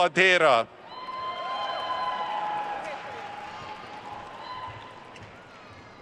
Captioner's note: attendees cheering and applauding